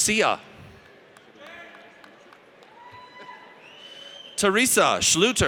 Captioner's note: audience cheers